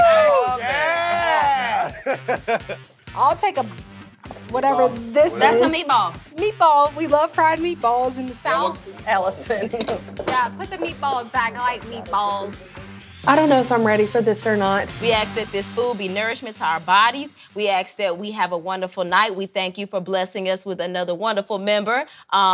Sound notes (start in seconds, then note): 1.8 laughing